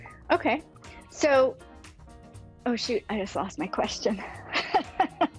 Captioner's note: laughs